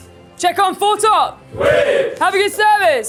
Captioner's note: chefs cheering